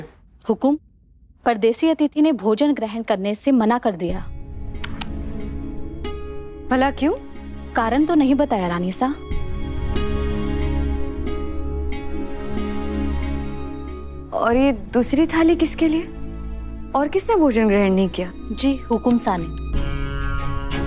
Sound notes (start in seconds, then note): 4.8 clicks tongue